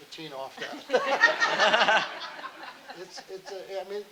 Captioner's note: audience laughing